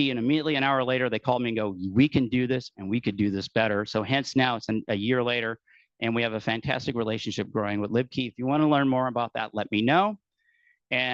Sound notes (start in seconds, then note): none